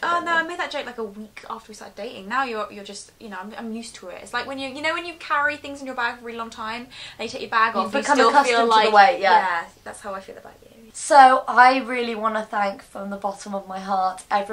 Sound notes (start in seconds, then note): none